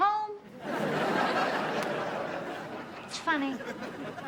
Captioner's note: audience laughs